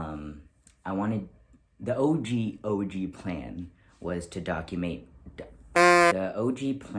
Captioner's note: horn sound